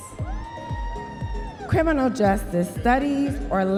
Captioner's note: audience members cheering